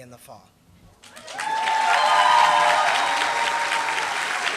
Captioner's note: applause